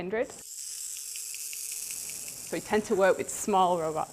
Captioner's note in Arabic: أصوات ميكانيكية